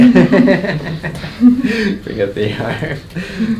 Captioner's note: both laugh